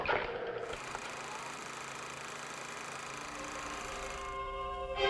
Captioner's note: old movie reel clicking